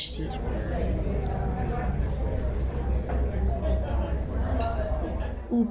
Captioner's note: people talking in a cafe